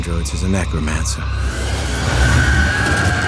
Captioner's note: shrieking